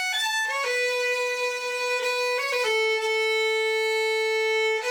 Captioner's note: none